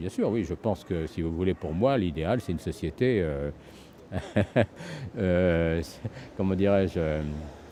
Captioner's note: laughs